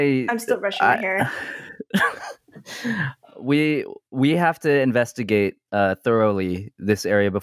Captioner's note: laughs